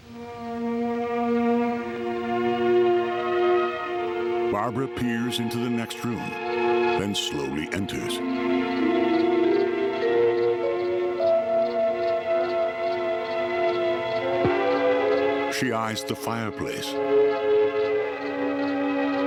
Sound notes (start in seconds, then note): 0.1 eerie music; 9.7 crickets chirping